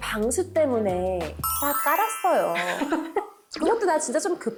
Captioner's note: professional job sound effect